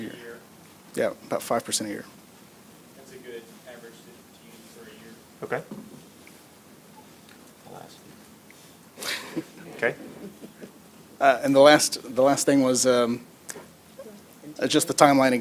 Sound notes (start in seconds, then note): 11.8 laughter